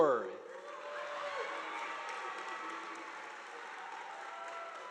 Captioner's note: audience applauding